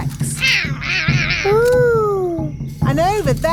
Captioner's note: roaring